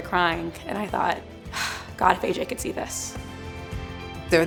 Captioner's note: gasps